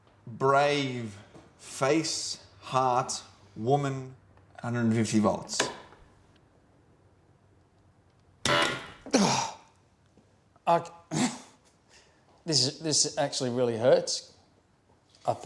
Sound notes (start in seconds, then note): 8.4 machine blaring; 9.1 grunting